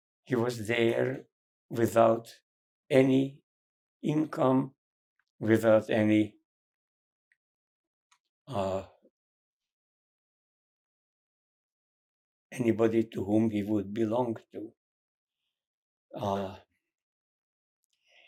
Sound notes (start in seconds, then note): 6.3 pauses 6 seconds